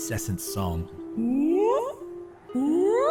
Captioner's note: ooOoOwww